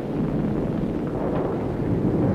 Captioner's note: wind